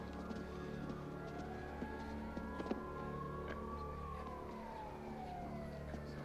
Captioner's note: siren blaring